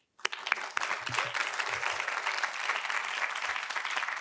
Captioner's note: audience applauding